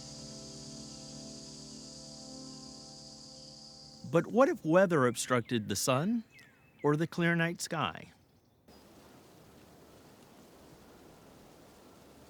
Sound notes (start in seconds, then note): 0.0 somber ambient music fades; 8.7 snow falling